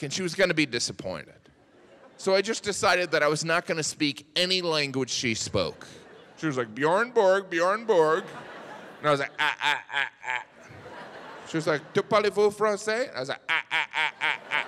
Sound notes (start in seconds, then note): 7.7 audience laughs